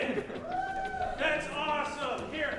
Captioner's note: cheering